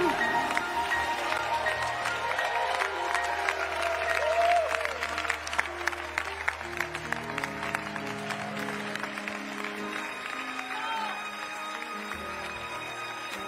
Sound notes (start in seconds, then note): 2.9 cheering